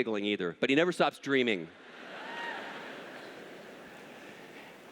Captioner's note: laughter